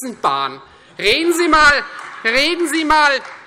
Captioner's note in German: Beifall Freie Demokraten und AfD - Lachen SPD